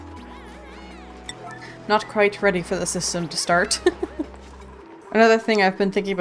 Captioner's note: laughs